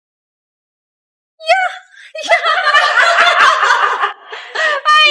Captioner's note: laughing